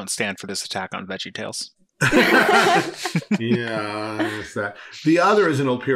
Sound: laughing

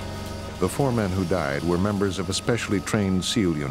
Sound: voiceover

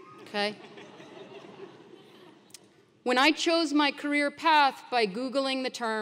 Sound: laugh

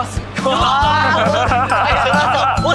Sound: laughs in disbelief

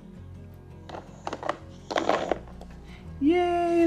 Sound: objects hitting

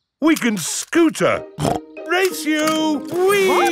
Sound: snorts

